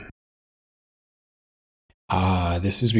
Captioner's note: blank Audio